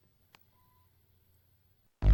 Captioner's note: faint beep